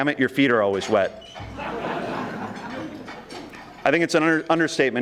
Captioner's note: audience laughing